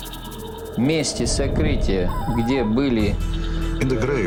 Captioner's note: speaking russian